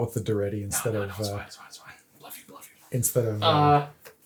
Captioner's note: whispers